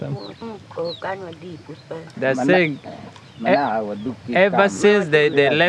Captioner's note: speaking in foreign language